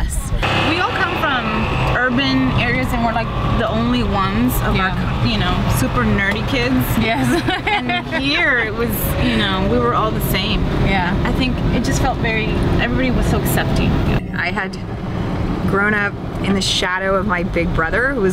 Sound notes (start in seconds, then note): 7.0 laugh